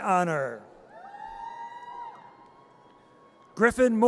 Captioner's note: audience cheers